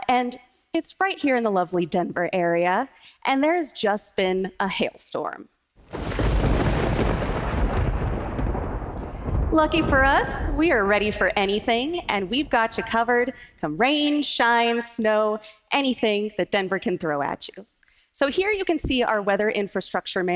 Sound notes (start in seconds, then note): 11.3 sound of thunder